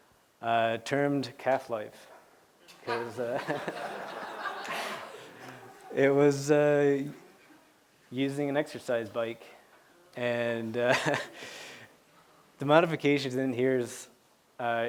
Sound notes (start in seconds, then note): 2.8 laughter